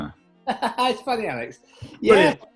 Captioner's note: laughing